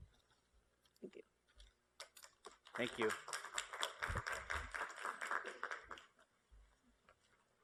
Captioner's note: applause